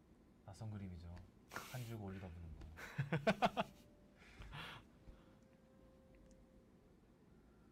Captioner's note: laughs